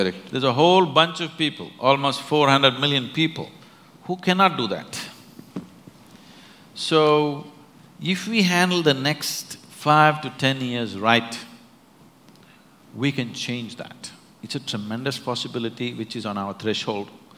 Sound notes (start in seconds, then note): none